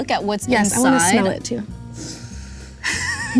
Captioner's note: sniffs; laughs